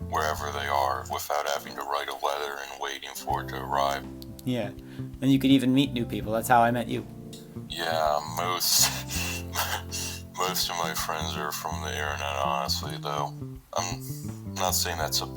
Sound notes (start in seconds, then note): 7.8 laughing